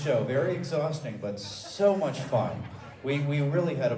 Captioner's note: audience laughs